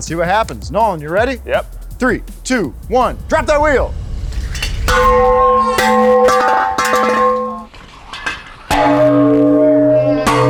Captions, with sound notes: See what happens? Nolan, you ready? - Yep. - Three, two, one, drop that wheel. (wheel clatters)